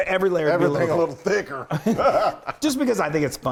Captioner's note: laughs